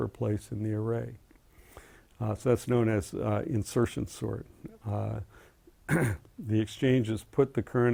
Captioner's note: cough